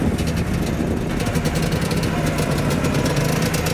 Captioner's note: The Trabi rattles